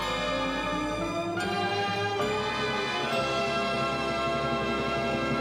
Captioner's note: upbeat music; children chattering